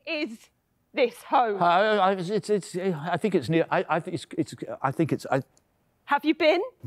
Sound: stammering

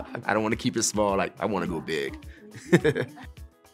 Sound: laughter

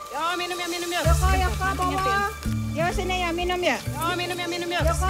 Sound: speaking in foreign language

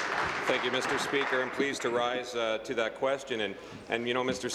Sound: applause

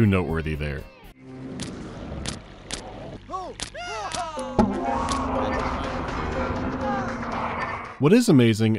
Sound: sounds of house appliances, ghost disturbances and people crying out

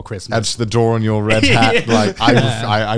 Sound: laughing

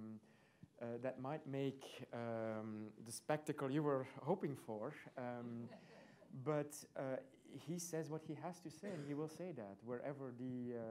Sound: laughter

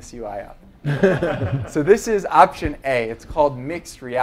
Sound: laugh

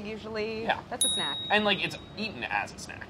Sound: buzzer pinging

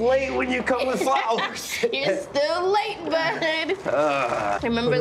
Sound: laughs

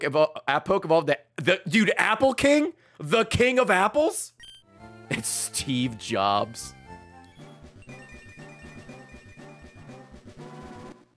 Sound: laughs

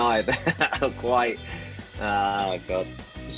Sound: laughs

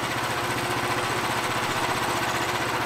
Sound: engine idles

